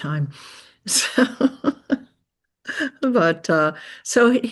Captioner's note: chuckles